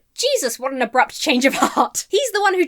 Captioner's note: laughs